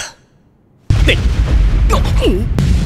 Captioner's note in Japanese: 衝撃音